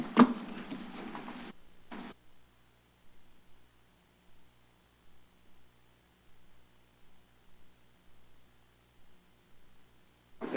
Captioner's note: silence